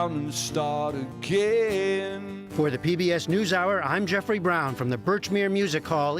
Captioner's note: voice-over